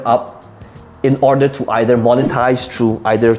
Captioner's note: air whooshing